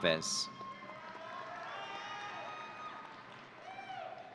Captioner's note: audience cheering